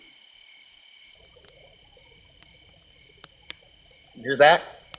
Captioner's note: wolf howling